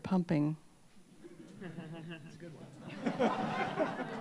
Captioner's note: laughter